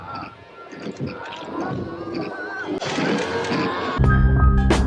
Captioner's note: skin squelching; worker exclaims; haunting jazz music